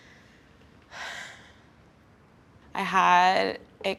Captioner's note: sighing